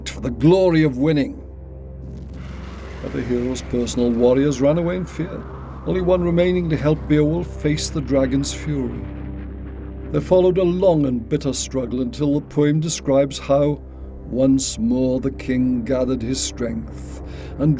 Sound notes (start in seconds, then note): 2.4 fire crackling